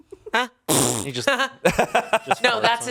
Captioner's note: laughs